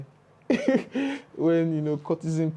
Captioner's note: laughs